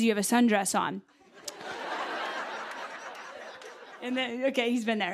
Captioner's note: laughter